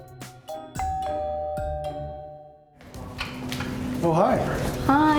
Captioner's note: doorbell rings